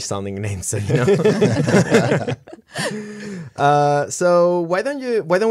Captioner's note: laughter